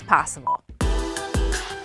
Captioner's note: upbeat music; short beep